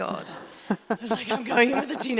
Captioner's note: laughing